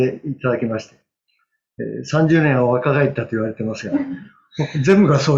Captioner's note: laughs